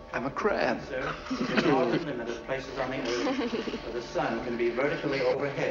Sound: laughs

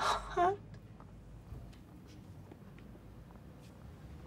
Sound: crying

